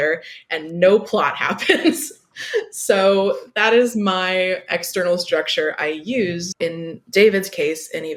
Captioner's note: laughs